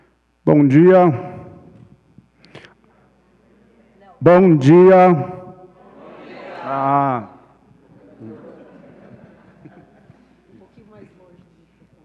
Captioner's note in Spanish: Ponente habla en portugués